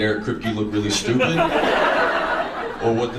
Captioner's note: audience laughs